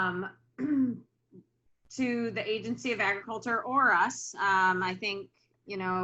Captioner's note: clears throat